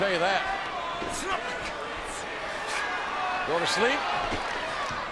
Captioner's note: applause